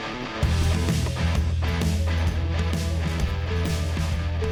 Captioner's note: car beeping